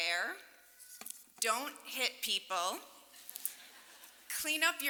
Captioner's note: laughter